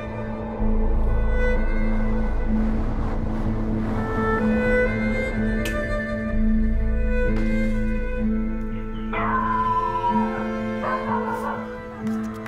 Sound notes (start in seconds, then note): 7.6 dog barks